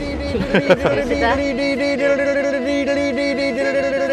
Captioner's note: people humming